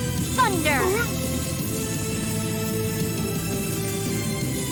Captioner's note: sounds of Battle